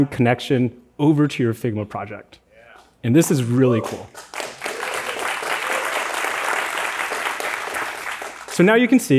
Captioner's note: applause